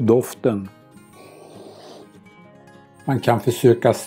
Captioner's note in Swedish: Sniff-ljud